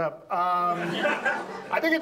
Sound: audience laughs

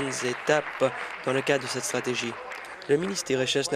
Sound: applause

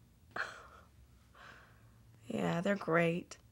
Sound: Kelly laughs

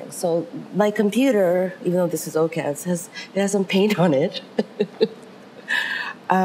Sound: laughs

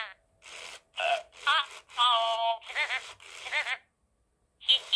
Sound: burps; laughs

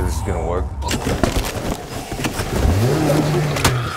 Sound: struggling; engine revs

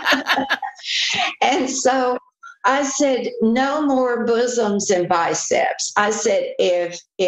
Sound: laughter

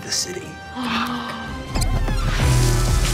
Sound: gasping; dramatic music

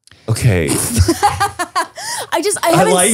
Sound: laughs

